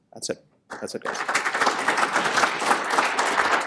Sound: applause

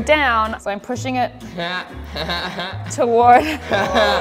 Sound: laughter

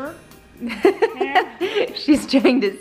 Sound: laughs

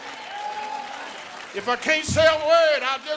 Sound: applause

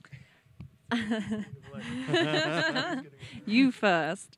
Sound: laughs

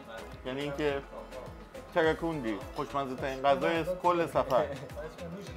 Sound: speaking in foreign language

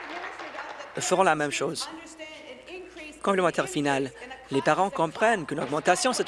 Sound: applause

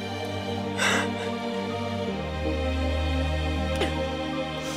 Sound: Nadia crying

